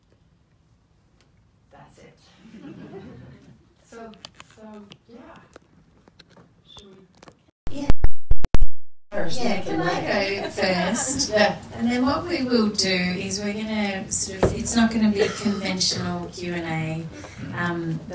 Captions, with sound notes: That's it. (people laugh) So, yeah. Should we? (microphone handling noise) First then-- - Yeah can I go first? - Yeah. - And then what we will do is we're gonna sort of, it's not gonna be a conventional Q&A